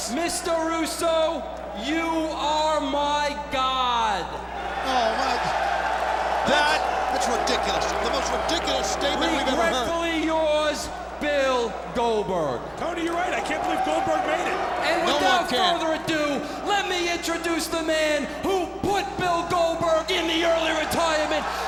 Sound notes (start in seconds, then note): 4.5 audience shouting